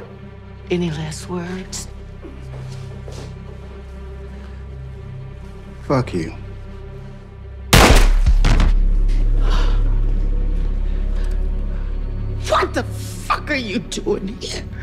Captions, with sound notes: Any last words? (tense music continues) - Fuck you. (gun firing) (body thuds) (Alicia gasping) - What the fuck are you doing here?